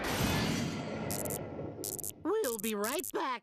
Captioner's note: buzzing